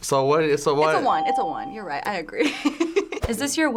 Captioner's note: laughs